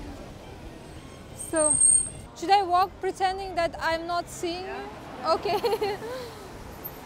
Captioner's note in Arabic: هاهاها